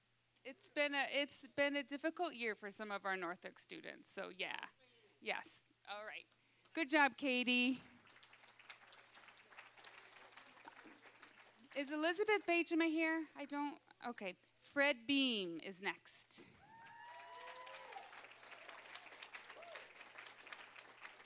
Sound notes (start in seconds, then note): 7.6 applause; 16.6 applause, cheering